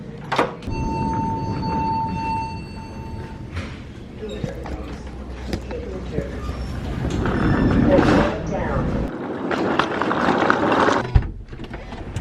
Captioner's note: door opening; luggage rolling; trunk opening